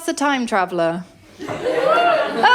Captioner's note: laughter & whooping